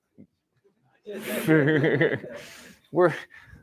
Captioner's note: laughter